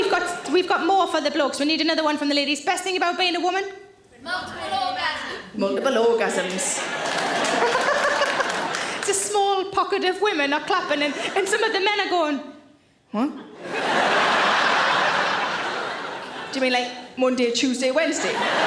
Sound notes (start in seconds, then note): 7.0 women applauds; 7.5 Sarah laughs; 13.6 audience laughing; 18.1 audience laughing